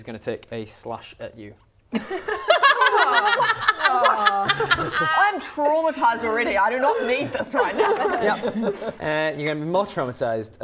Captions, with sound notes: take a slash at you *laughing* - What? I'm traumatised already, I do not need this right now! Yup You're gonna be more traumatised